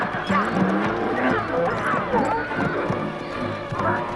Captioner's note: donkeys braying